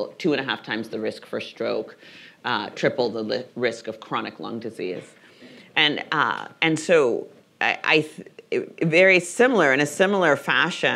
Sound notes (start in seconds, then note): none